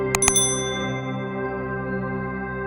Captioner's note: ringing of bell